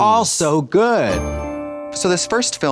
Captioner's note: bright chime